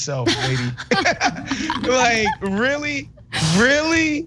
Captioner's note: laugh